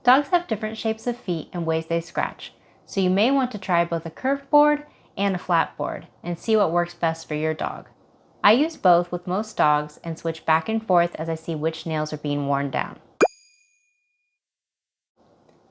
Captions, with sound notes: Dogs have different shapes of feet and ways they scratch, so you may want to try both a curved board, and a flat board, and see what works best for your dog. I use both with most dogs and switch back and forth as I see which nails are being worn down. (boop sound)